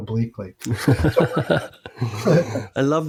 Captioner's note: laughing